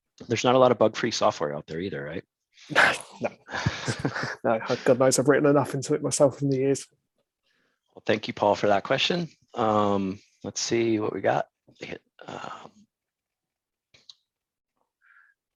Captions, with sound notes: - There's not a lot of bug free software out there either, right? - (chuckles) No No, God knows I've ridden enough into it myself in the years. - Well, thank you Paul, for that question. Let's see what we got.